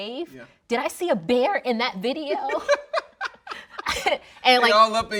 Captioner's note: laughing